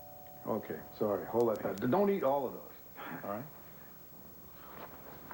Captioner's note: doorbell rings